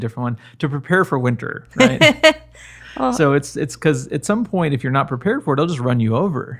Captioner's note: laughter